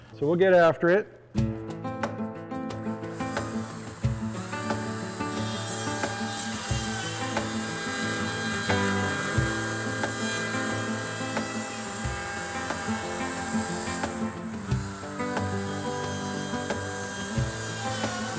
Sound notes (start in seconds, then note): 1.6 upbeat music; 5.8 saw whirring; 15.6 upbeat music